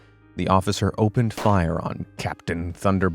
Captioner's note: gun firing